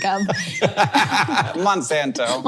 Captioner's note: laughs